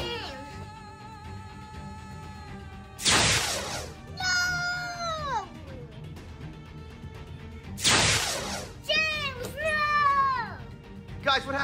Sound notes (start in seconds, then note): 0.1 dramatic background music; 7.8 electric sound